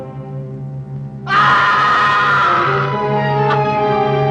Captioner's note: screaming